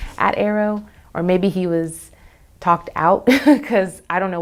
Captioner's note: laughs